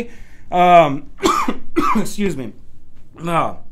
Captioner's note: coughs